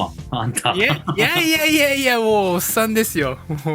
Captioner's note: laughs